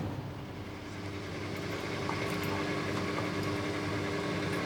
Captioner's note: pump rumbling